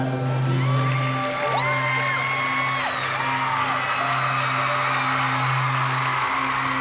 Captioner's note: cheering, applause